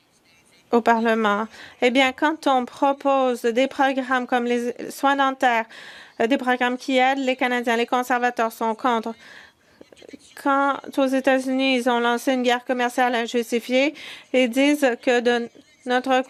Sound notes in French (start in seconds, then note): 6.6 voix de l'interprète